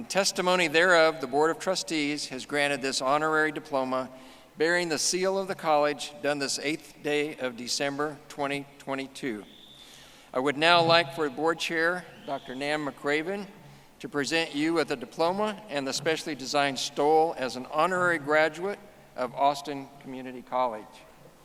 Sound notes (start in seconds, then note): none